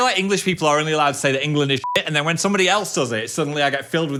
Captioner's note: beep